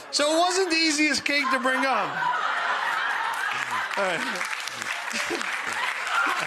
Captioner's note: audience laughing and applauding